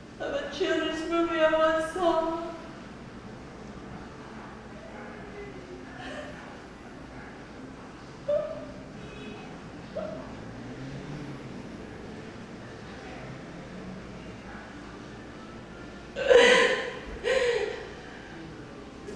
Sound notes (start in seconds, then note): 6.0 sobbing